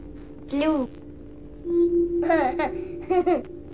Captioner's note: laughs